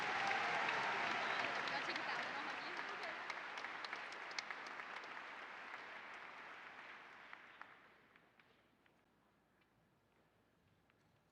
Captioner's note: applause